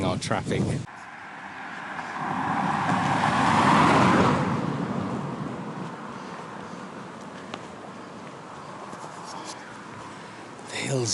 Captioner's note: passing Traffic